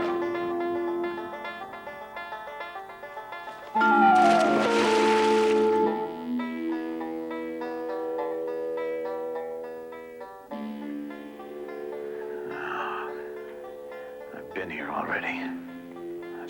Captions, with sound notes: (water splashing) (intense music) - I've been here already.